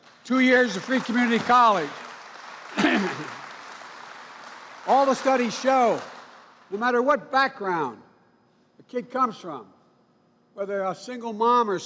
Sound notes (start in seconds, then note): 2.4 applause